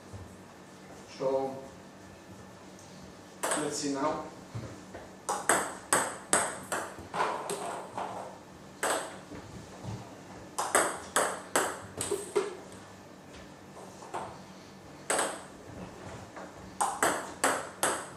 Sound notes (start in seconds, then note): 5.2 balls ping pong hitting; 14.4 balls ping pong hitting continues